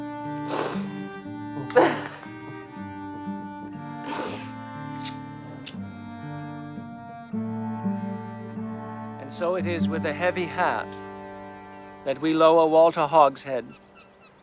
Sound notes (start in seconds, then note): 0.1 Martha sniffling and laughing; 3.8 sniffling; 4.8 kissing